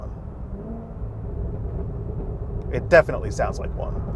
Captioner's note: engine revving